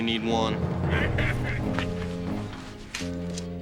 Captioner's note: laughter